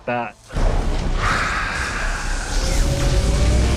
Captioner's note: sighs